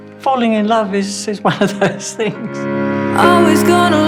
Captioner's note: chuckling